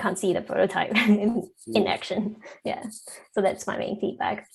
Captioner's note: chuckles